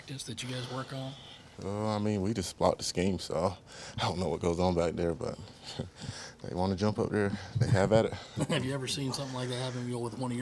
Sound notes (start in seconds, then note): 5.4 chuckles